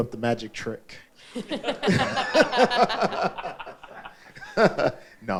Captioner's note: all laughing